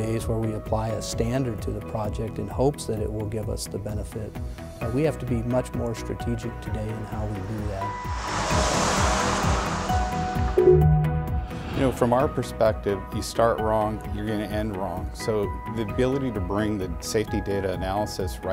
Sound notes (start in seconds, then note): 7.3 car passing; 10.6 digital tone